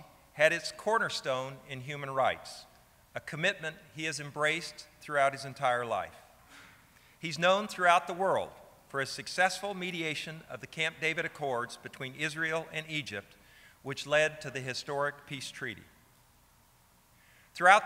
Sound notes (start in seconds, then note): none